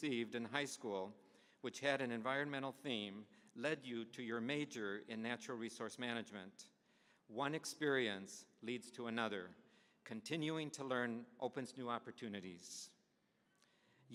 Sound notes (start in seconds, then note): none